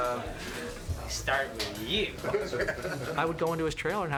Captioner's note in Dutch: lacht